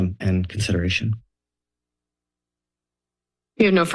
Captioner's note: silence